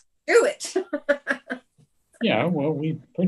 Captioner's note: chuckles